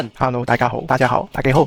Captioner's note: Cantonese; Mandarin; Taiwanese